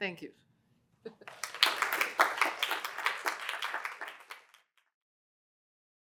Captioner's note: applause